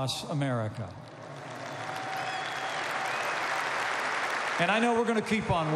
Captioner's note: applause